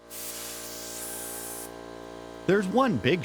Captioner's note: air compressor running